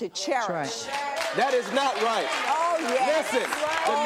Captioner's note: applause